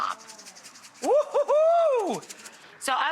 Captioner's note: Rachael whoops